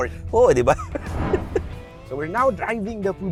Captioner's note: laughs